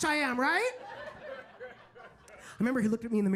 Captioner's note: audience laughs